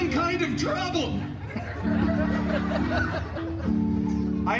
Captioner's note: guests chuckling